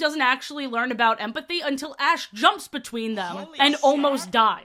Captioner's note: crowd gasp sfx